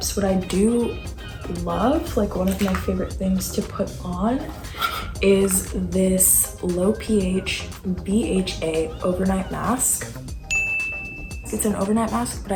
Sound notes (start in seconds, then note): 10.4 chime